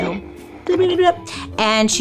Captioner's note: imitates radio crackling